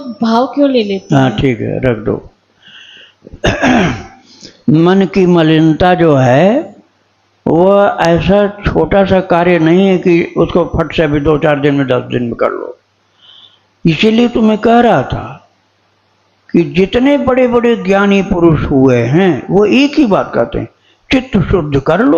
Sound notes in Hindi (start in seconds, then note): 3.2 खांसने की आवाज़; 3.3 गला साफ़ करने की आवाज़